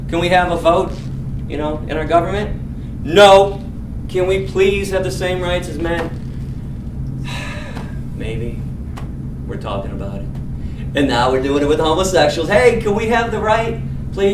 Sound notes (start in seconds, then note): 7.2 sigh